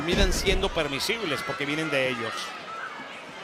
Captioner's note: Damian thuds